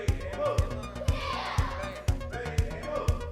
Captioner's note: kids shouting